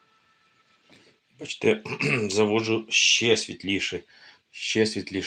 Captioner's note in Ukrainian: прочищення горла